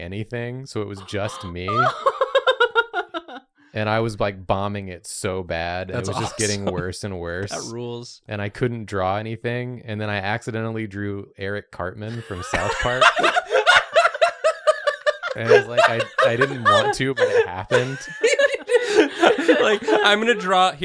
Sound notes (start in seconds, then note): 1.0 chuckles gleefully; 13.0 laughter fills the silent lecture hall; 17.8 laughs back into existence